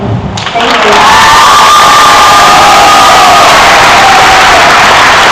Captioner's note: cheers and applause